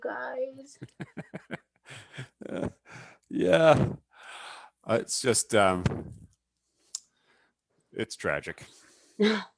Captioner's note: chuckles